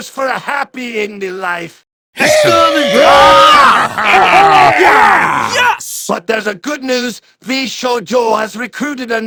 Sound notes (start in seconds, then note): 2.2 all cheered